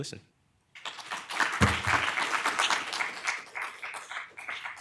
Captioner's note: audience applauding